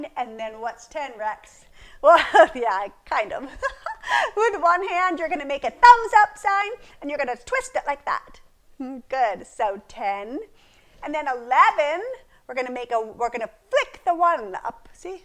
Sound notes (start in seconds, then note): 3.1 laughs